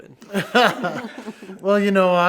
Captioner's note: both laughs